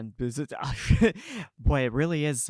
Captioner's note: laughing